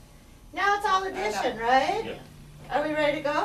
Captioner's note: voiceover